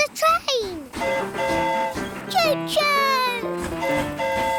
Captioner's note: train horn hooting